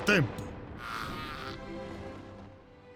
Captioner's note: Janara grunting